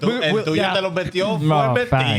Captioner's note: speaking Spanish